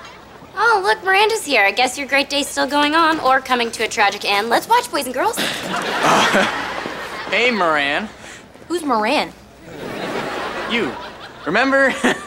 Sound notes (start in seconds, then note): 5.4 chuckles nervously